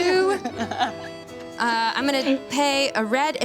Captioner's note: laughs